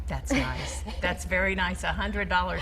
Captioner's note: laughing